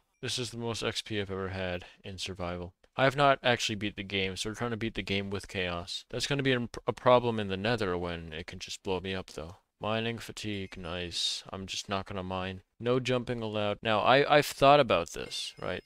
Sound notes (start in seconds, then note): none